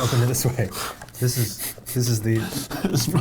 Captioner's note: giggling